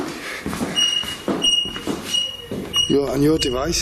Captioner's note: device beeping rhythmically